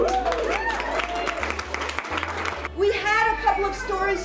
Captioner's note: applause